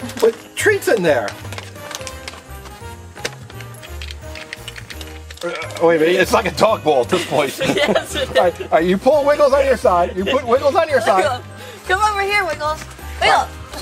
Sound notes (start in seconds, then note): 7.1 both laugh